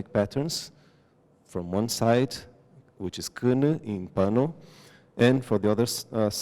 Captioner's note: non-english